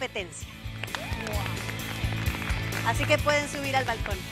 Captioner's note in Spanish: Aplausos